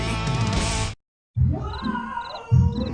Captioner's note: crickets chirp